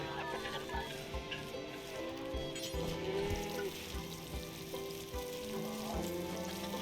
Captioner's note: humming